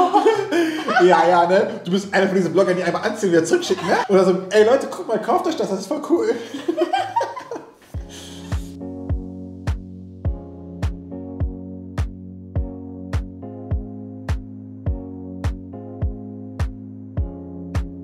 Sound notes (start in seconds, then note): 7.2 both laughing